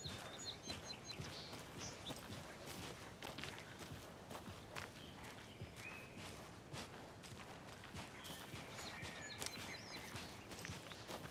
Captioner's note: birds chirping